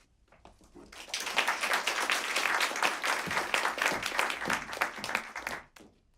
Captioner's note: applause